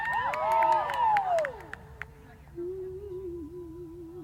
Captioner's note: cheers